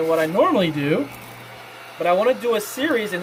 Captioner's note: whirring